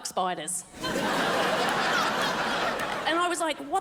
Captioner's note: crowd laughs